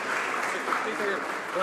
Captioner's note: some Applause